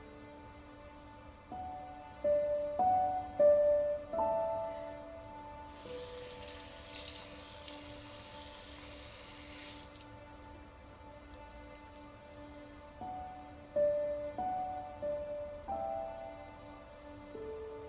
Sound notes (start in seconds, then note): 0.2 sentimental music; 5.6 faucet running; 12.5 sentimental music